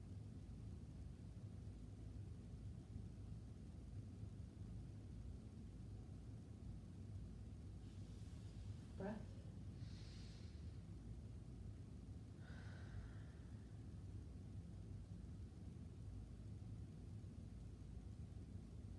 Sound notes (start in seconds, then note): 10.1 breathing deeply